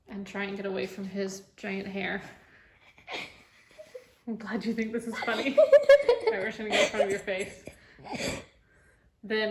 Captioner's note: laughing